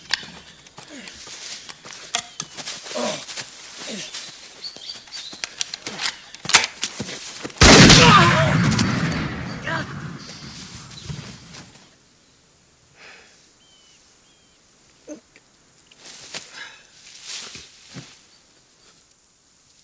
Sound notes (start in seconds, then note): 0.1 weapon being loaded and cocked sound; 7.6 gunshot and impact on target